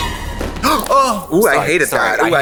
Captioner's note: horror music; Katya gasps